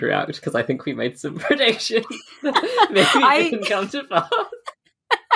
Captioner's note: laughing